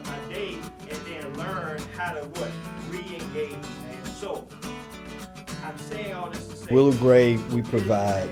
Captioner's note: upbeat guitar music; man speaking to class